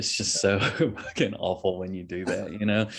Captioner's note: chuckles